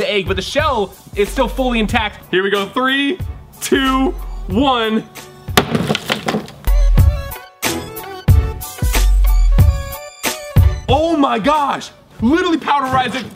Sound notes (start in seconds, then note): 5.6 hammer bangs; 6.6 upbeat music